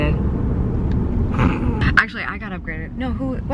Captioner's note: snorts